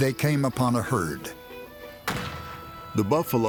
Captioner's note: gunshots